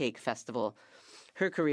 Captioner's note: speaking French